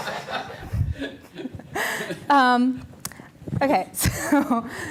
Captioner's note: all laughing